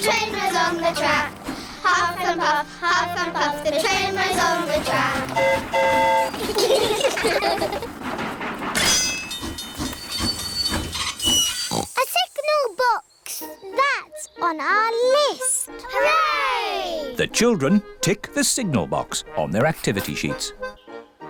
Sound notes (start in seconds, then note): 5.1 train horn toots; 6.3 all giggle; 9.5 tinging; 11.6 oinks